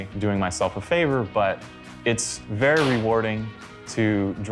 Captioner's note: hood thudding